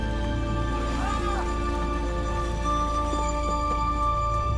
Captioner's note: man shouting; dramatic music